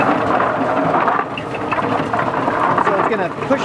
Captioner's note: root washer starts turning loudly; speaking louder